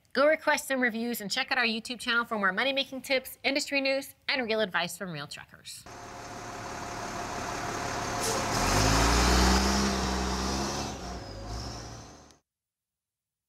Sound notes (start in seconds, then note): 5.8 engine running